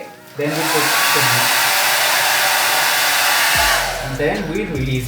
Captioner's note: blow dryer sound